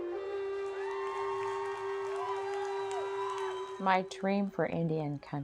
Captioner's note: cheering & applause